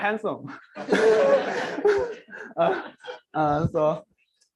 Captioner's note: laughter